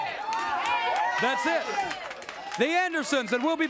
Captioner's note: crowd cheering